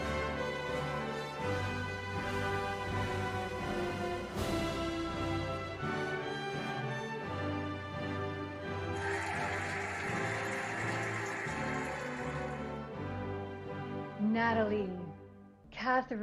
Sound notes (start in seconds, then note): 0.5 cheerful music; 8.7 cheering and applauding